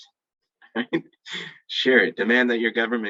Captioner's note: laughing